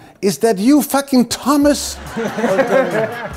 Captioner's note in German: Lachen